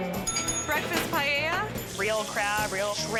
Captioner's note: bell dings